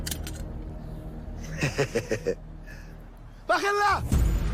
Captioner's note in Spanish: Ruido al dejar caer el arma; Se ríe